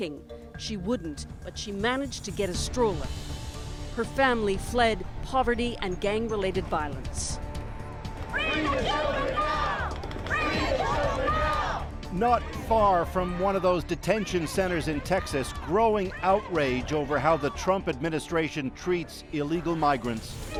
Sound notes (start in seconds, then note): 8.3 protesters chant; 20.3 protesters chant